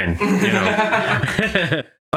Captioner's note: laughs